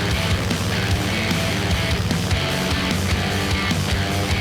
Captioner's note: airboat motor running; fan blowing; rock music